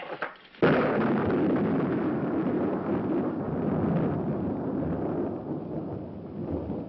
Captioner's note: thunder